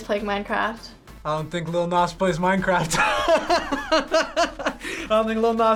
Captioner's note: laughs